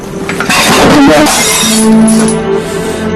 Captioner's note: dishes clatter, break